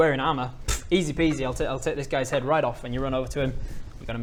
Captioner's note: pfft